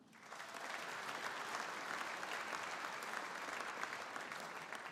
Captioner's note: audience applauding